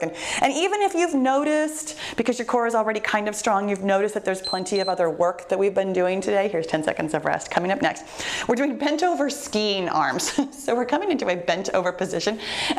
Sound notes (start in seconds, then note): 4.4 timer beeps